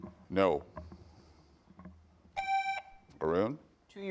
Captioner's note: buzzer beeps